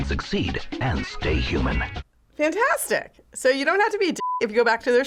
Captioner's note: voice-over